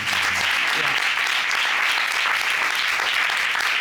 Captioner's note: audience applauding